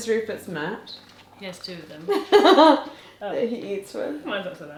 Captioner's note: chuckles